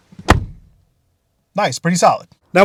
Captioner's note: car door closes